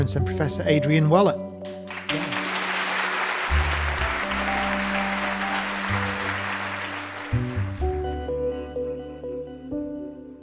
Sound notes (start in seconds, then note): 1.6 lively music; 1.9 audience laughing